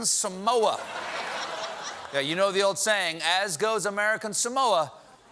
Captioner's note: laughter